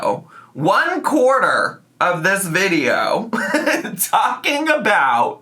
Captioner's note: laughs